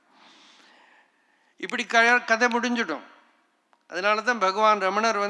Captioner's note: snaps fingers